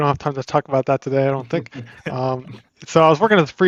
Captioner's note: laughs